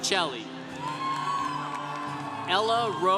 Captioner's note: congregation cheering